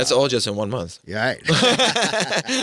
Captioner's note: laughing